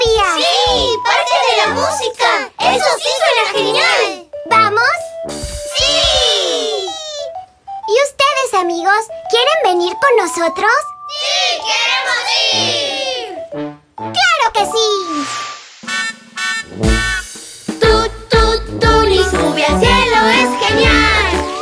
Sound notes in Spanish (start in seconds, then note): 15.6 Sonido de bocina